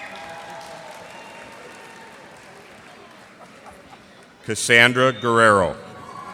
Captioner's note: cheers and applause